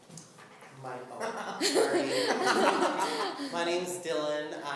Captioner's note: everyone laughs